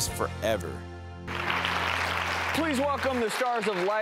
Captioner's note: audience applauding